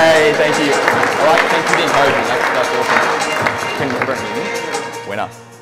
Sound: audience clapping

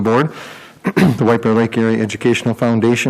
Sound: coughs

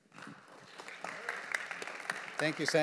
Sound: audience applauding

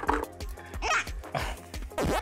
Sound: struggling

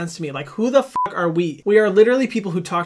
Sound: beep

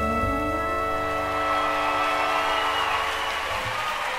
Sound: people cheering

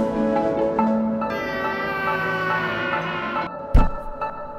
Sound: bird vocalizing

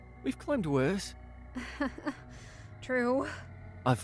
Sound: weak laugh

